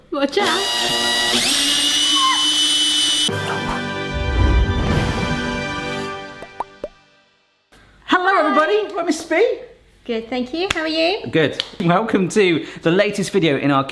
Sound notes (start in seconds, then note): 0.5 drill whirling; 3.2 dramatic intro music